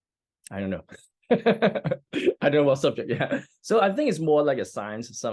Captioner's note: laughs